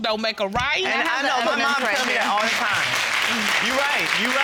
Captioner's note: audience applauding